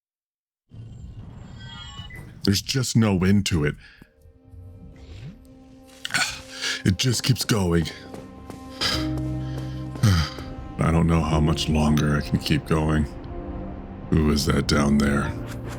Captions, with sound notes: There's just no end to it. It just keeps going. [Heavy Breathing] I don't know how much longer I can keep going. Who is that down there?